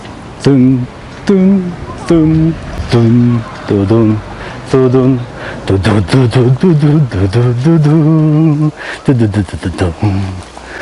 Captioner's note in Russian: напевает